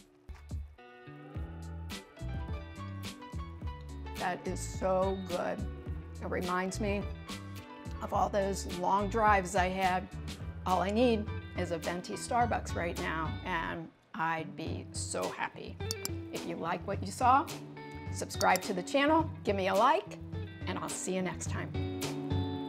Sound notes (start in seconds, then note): 0.3 gentle upbeat music; 16.1 mouse clicks